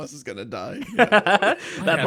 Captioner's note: laughs